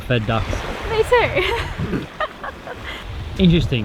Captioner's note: chuckles